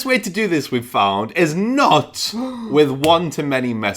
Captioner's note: gasps